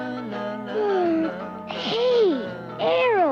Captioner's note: yawning